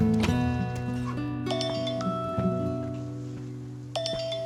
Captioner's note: phone rings